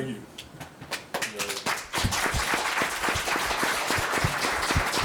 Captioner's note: audience clapping